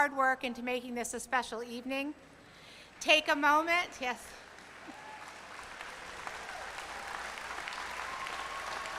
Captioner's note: applause